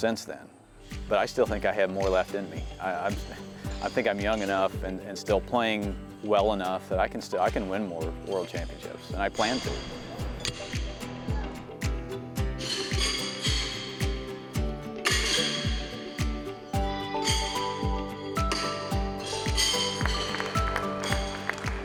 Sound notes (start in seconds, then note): 9.9 horseshoes clanking; 9.9 mellow music; 12.3 horseshoes clanking; 12.3 mellow music; 14.9 horseshoes clanking; 16.1 mellow music; 19.8 audience applauding